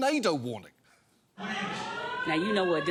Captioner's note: alarm wailing